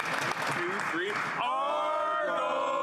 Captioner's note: applause